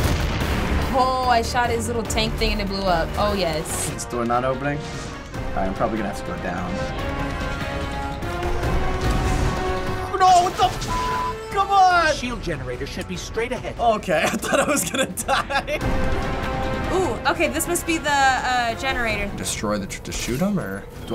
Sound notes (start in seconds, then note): 14.1 laughing